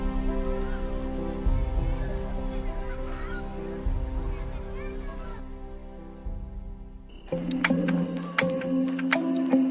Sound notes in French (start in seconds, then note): 0.0 Bruit de foule